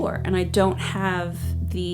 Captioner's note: none